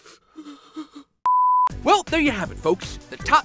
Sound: sobbing; beeping

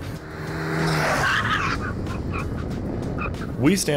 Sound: engine revving

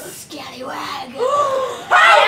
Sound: gasps

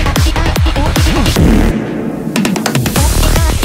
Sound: fart reverb

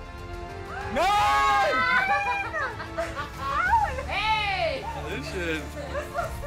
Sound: cheers

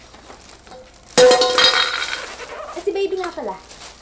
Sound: container clanks

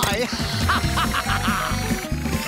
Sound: laughing

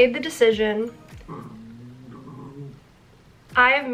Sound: dog growls

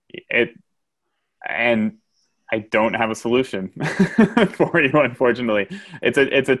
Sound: laughs

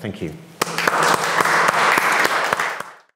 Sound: audience applauding

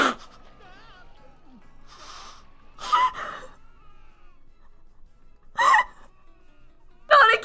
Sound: gasps

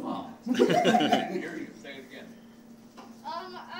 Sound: laughing

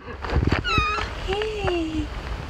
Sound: meow

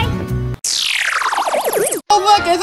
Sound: electric zapping

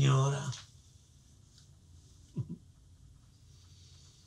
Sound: chuckles

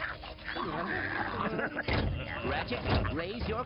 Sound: laughing; chattering

